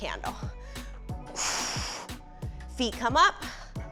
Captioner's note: exhales harshly